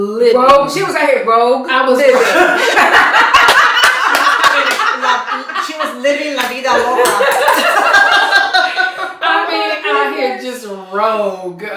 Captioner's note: laughter